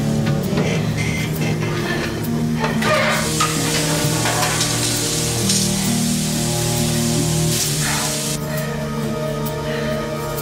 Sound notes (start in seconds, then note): 1.1 clanging and scraping; 7.0 sizzles